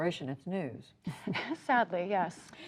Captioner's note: laughter